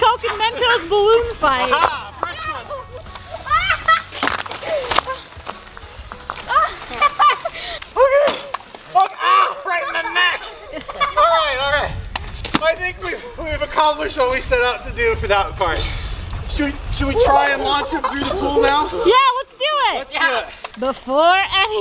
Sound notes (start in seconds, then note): 3.2 screaming